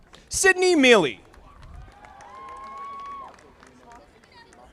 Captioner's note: audience applauding